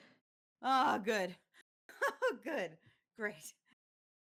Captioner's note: chuckles